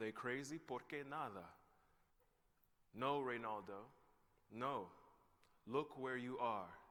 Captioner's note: non-english speech